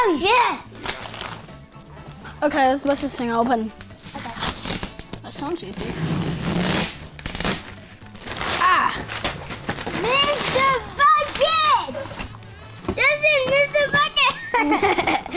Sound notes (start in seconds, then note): 5.7 tape ripping; 13.9 kids laugh